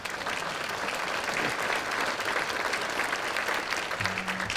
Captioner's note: applause